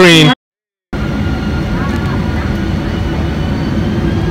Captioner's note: engine roaring